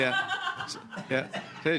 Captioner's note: laughter